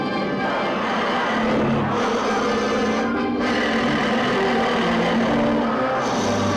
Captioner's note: thunder claps; suspenseful orchestral music; monster roars